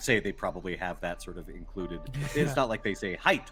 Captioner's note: Cornette laughs